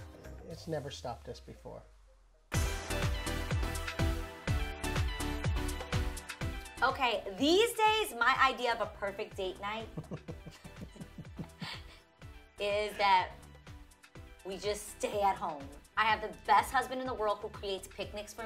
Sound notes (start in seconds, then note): 2.5 upbeat music; 9.8 giggling